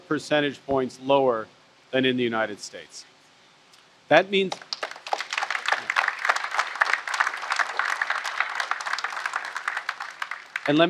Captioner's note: applause